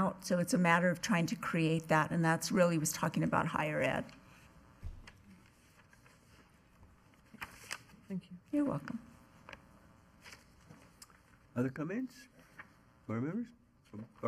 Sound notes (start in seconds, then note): none